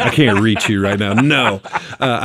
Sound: laughing

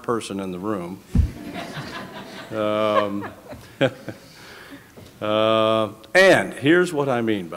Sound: laughter

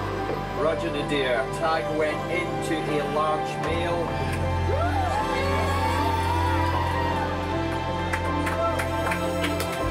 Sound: cheering, applause

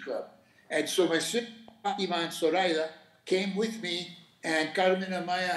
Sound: speaking Spanish

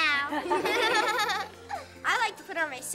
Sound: kids laughing

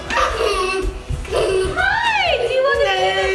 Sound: giggles

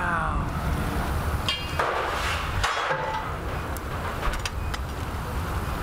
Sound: furnace running, engine sound

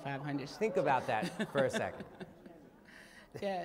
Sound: laughter

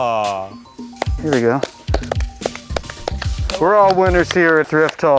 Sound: applause

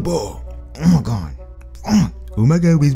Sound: grunts

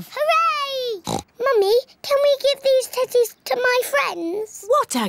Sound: oinks

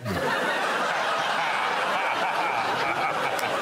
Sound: audience laughing

